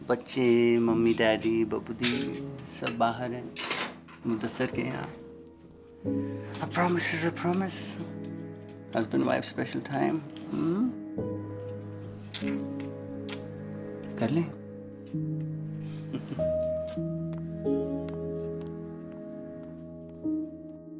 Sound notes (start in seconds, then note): 12.2 kisses; 16.0 giggling